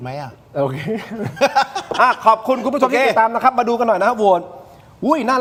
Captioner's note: laughter